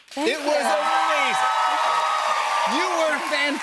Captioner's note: cheers and applause